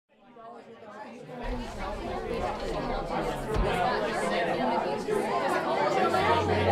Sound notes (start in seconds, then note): 0.1 people chattering